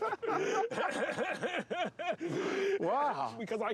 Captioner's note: laughing